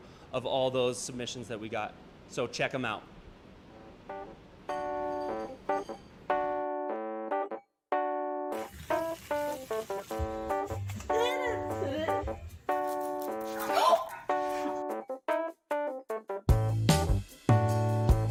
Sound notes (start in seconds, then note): 13.6 gasps